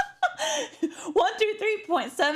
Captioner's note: laugh